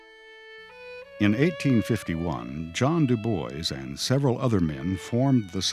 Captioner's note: voiceover